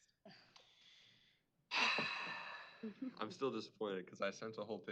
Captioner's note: sighs